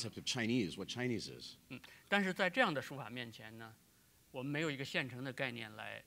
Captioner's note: speaking in Chinese